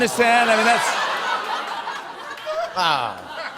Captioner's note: laughter